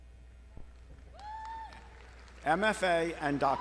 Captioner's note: crowd applauding